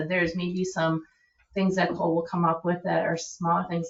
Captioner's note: none